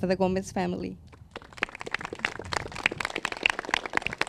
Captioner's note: crowd claps